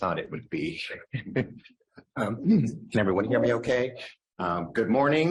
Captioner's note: laughs